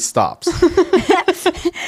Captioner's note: laughing